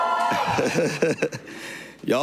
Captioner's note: cheering